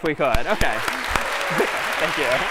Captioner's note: applause